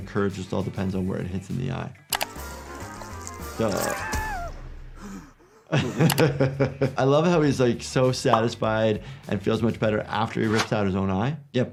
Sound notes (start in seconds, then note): 3.5 Lumpy screams; 5.0 laughs